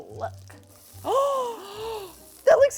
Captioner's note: gasp